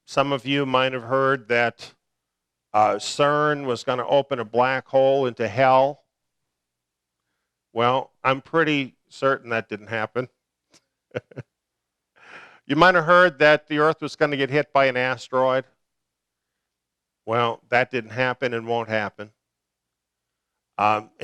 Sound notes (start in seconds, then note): 11.1 laughter